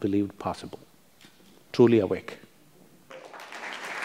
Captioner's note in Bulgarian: аплодисменти